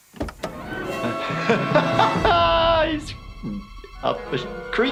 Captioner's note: laughing